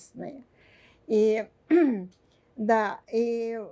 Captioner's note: clears throat